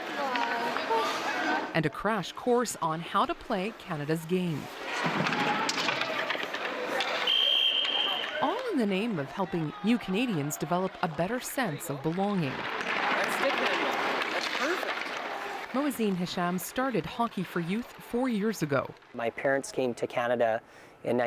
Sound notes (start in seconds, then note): 7.2 whistle